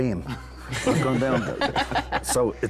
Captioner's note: all laug h